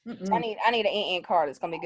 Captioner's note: imitating beeping